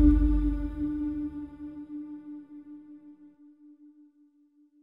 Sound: birds chirping

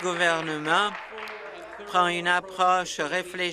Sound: applause

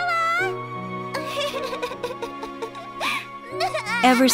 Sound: child weeps

